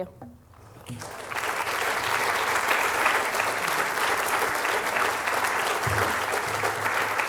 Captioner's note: applause